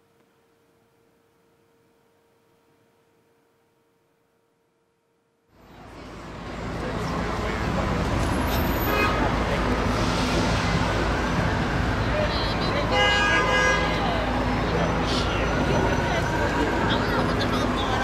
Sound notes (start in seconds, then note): 5.7 street noise